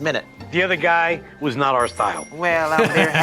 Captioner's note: bike bell ring